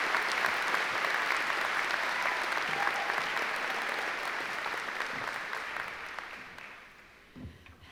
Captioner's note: applause